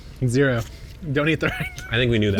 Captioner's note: laughs